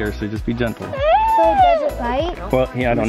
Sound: wailing

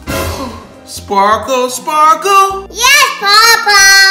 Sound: gasps

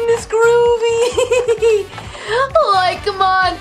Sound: Shaggy laughs

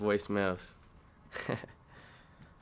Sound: laughs

